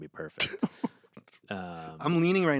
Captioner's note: Anthony laughs